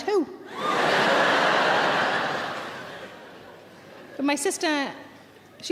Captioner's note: audience laughs